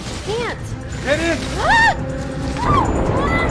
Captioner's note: Alison screaming